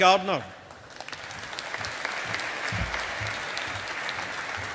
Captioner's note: audience applauding